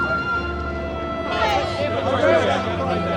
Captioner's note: reporters clamoring